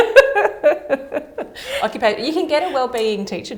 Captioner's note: laughter